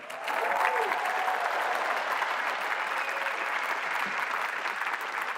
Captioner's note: applause